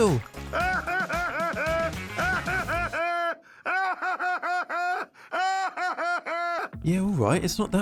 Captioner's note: hysterical laughter